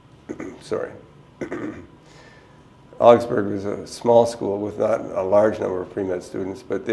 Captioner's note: clears throat twice